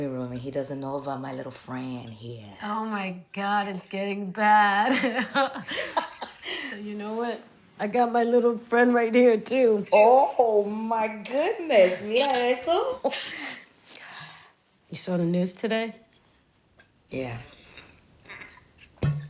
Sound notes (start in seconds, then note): 5.2 laughing